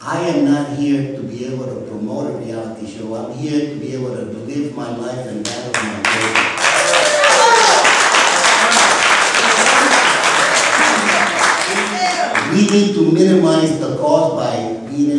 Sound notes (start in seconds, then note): 6.0 applause